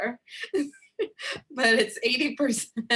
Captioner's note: laughs